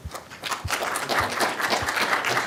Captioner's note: applause